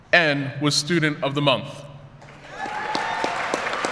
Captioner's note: applause